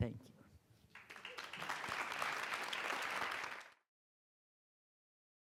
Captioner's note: audience applauding